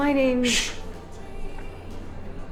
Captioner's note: shushing